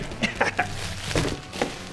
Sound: candy bars falling; laughing

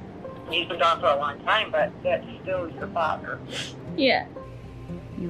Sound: crying

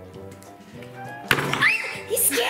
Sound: loud bang; screams

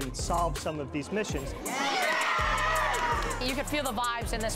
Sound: cheering

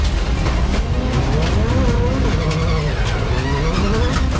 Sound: engine revving

